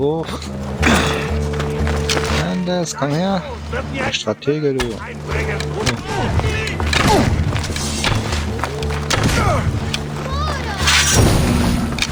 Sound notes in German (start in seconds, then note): 5.7 schreien; 11.1 stöhnen